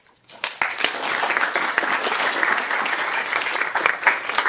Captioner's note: audience applauds